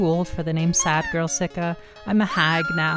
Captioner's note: "Mama" doll sound; woman screaming